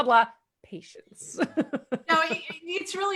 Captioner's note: laughs